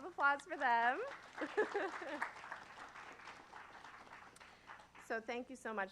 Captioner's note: applause